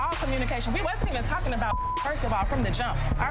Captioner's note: beep